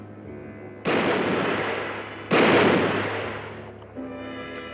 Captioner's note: gun firing